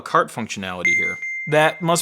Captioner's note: bell dinging